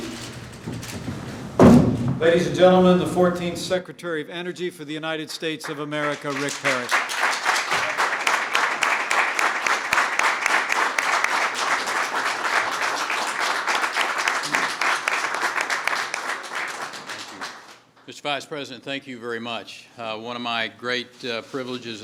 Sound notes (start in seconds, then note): 7.2 applause